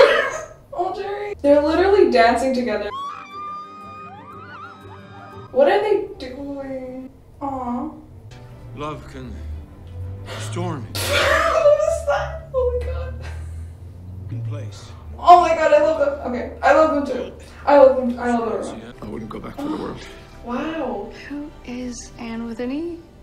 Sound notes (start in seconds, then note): 0.0 laughs; 2.8 screams; 10.1 gasps; 11.0 laughs